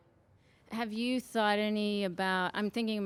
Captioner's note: voiceover